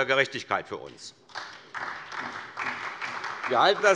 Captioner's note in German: Beifall SPD